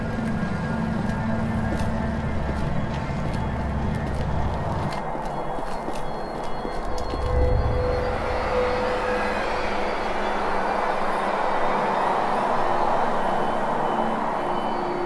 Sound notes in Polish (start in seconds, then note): 0.1 szumy i kroki w tle; 6.3 odgłosy kroków